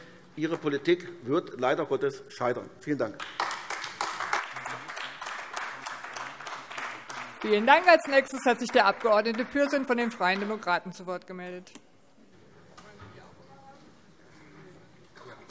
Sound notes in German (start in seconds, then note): 3.1 Beifall AfD